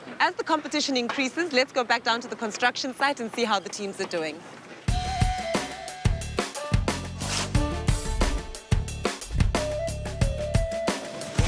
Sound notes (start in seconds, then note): 5.0 upbeat music; 7.0 trowel scraping; 8.3 upbeat music